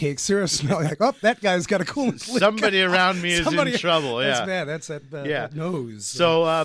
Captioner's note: laughs